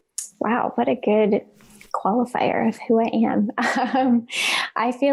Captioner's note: chuckles